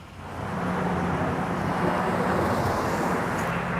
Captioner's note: traffic noises